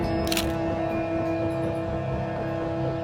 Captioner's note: dramatic music; camera shutter clicking; dramatic music